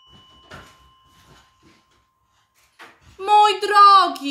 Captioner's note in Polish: Dzwonek do drzwi